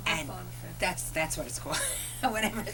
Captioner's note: laughter